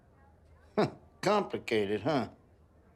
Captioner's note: larry chuckles